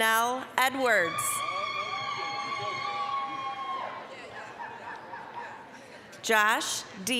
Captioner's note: applause, cheering